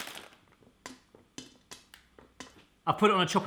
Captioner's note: clinking